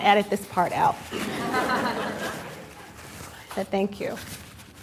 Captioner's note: laughter